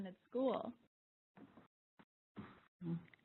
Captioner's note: pause